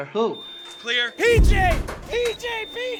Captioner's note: monitor beeping continuously